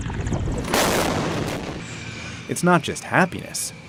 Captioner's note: tank artillery banging